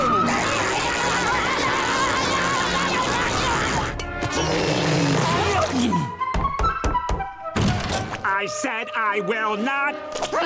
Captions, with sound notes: [screaming] [knocking] I said I will not-